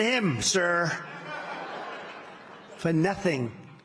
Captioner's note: laughter